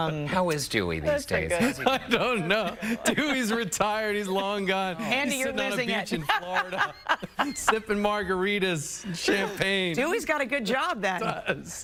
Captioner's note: laughter